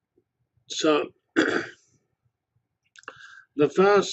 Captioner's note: cough